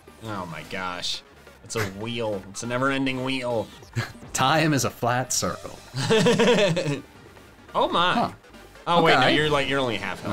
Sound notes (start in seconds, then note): 5.9 laughing